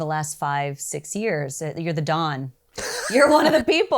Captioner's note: laughs